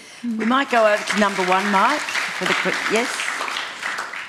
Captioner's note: applause